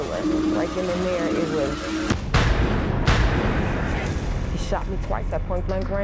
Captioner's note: loud boom